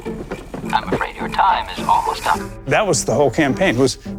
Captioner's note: on phone